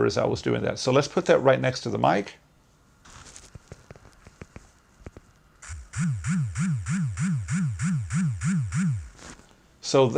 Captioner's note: pulsating vibration